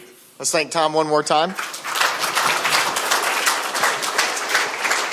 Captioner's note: audience clapping